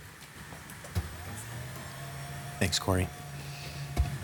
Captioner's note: whirring